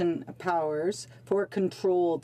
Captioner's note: speaking French